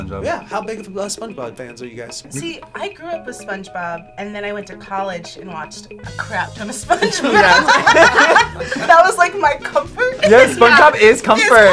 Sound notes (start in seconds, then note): 6.9 all laughing; 10.1 laughs